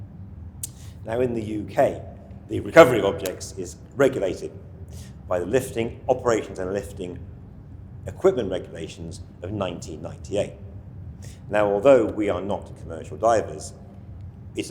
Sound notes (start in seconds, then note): 0.6 clicks tongue; 3.5 hands tap